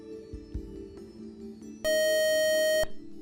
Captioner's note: buzzer